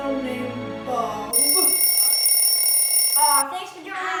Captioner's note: timer ringing